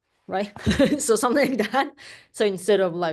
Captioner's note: chuckles